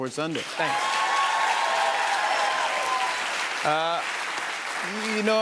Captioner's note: cheers and applause